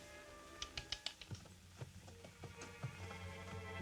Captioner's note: tongue clicking; eerie music